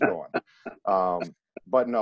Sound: laughing

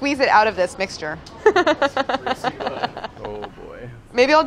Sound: laughing

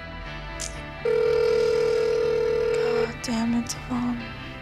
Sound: phone ringing

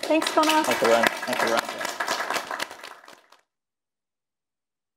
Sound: audience applauding

